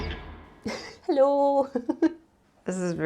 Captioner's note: giggles